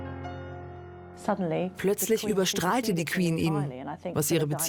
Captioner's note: voiceover